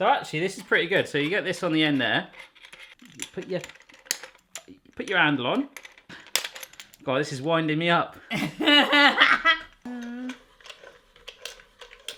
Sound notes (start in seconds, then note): 3.0 metal clanging; 5.7 metal clanging; 8.3 laughing loudly